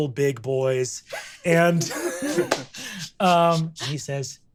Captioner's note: laughs